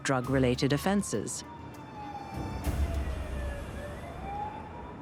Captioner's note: sirens blaring